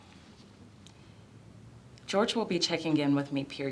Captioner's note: none